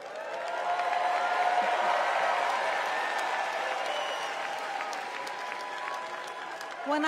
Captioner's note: cheers and applause